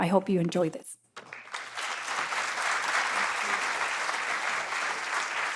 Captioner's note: audience applauds